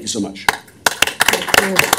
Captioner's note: applause